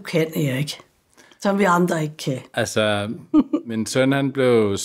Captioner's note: laughs